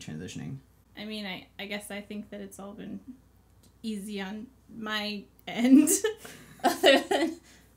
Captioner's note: laughs